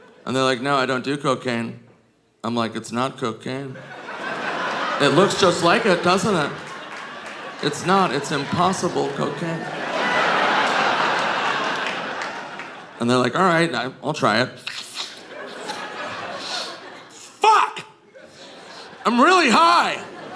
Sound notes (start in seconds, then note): 4.0 audience laughing; 10.0 audience laughing; 16.3 Nick imitates sniffing